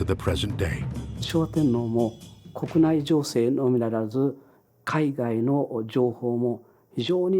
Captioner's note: professor speaking in Japanese